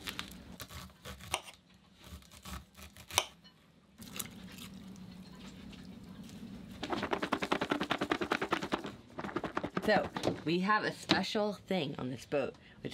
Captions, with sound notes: (blade slicing) (vegetables rattling in container) So we have a special thing on this boat,